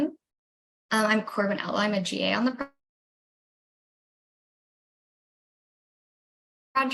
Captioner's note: silence while video is frozen